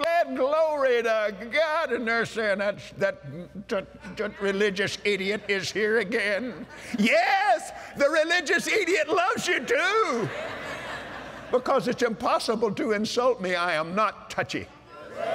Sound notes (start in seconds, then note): 9.9 laughter; 15.1 cheers & Applause